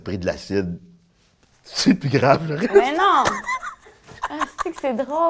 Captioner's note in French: rire